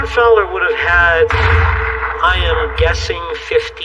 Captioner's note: gun firing